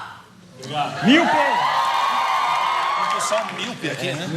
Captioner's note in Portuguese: gritos na plateia